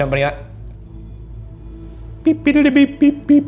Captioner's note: REM-pod beeping